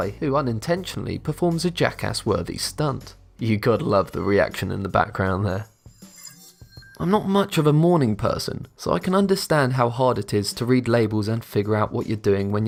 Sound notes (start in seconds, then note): 5.7 futuristic ringing